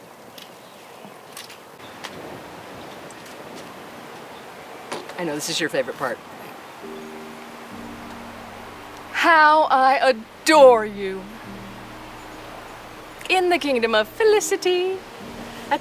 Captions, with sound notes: (wind whooshing) - I'll bet this is your favorite part. (wind whooshing) (piano music) "How I Adore You." In the Kingdom of Felicity,